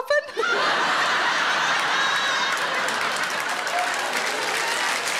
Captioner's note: audience laughing and applauding